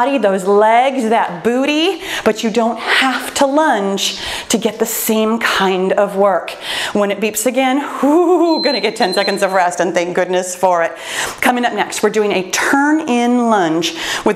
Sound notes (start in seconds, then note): 7.7 laughs; 8.4 timer beeps